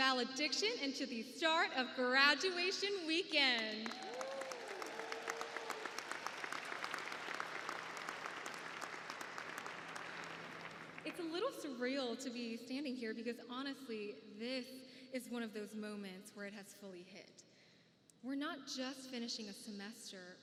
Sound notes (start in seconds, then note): 6.3 applause